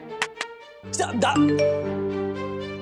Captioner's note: message beep